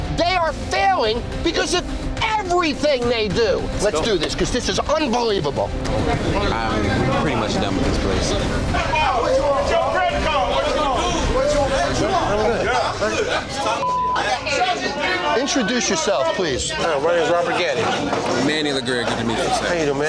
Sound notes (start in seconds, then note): 9.3 men yelling; 12.7 men arguing; 13.8 beep